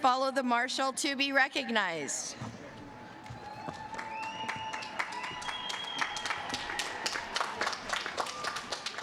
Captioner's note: applause